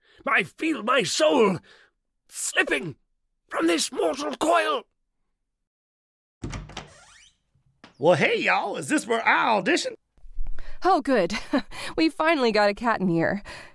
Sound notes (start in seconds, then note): 6.4 door opens